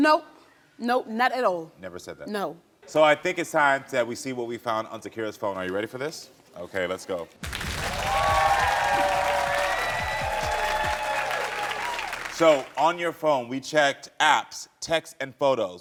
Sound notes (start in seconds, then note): 7.4 audience applauding; 7.4 audience cheering